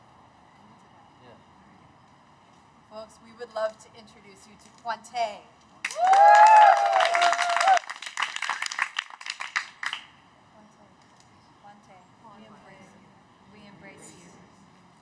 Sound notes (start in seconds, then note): 8.9 cheers